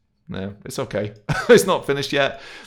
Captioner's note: laughing